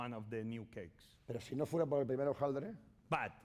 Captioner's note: speaking spanish